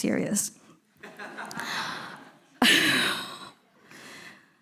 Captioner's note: all laughing